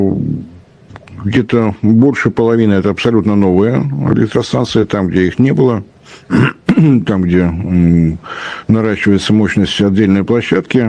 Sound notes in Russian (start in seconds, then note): 6.2 кашель; 6.3 откашливается